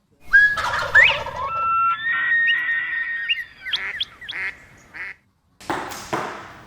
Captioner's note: bird calls